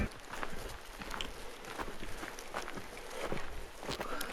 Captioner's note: footsteps